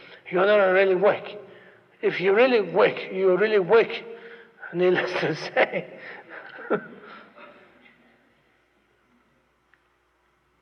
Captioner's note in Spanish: Se ríe